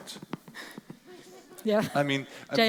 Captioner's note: audience laughing